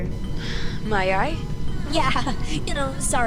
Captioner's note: sigh